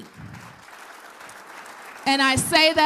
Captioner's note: applause